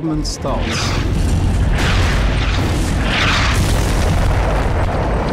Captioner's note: explosions booming